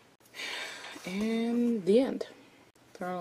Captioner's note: exhales